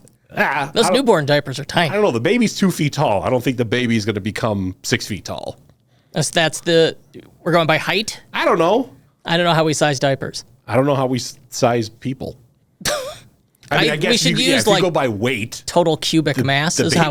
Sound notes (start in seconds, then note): 12.8 laughs